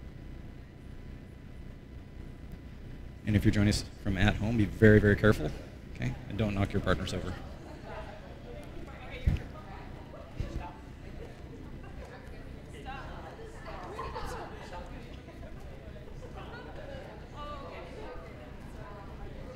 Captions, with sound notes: And if you joining us from home, be very, very careful and don't knock your partners over. [SIDE CHATTER]